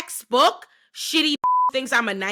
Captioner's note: beep